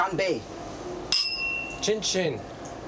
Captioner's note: glasses clinking